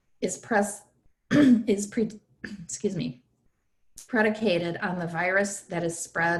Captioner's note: clears throat